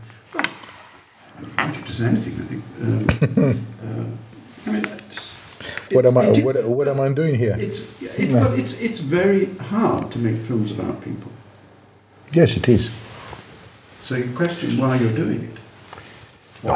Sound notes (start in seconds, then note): 2.8 laughing